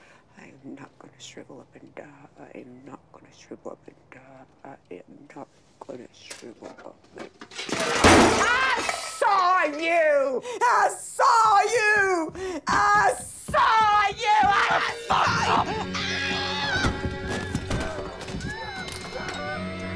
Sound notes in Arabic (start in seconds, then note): 14.3 امرأة تصرخ; 14.3 موسيقى درامية